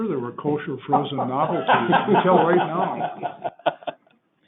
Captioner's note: laughing